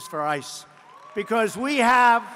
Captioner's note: applause